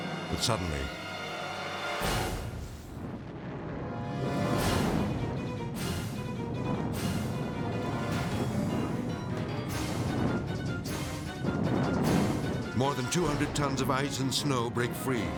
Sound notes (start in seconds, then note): 1.6 dramatic beat; 3.1 intense orchestral music; 3.1 snow rumbling